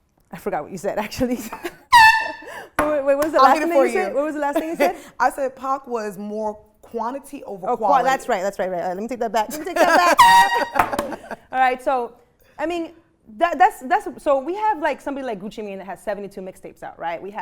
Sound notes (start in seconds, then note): 1.9 horn blaring; 9.8 horn blaring; 11.5 laughing